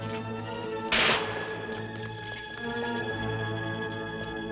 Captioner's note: gun fires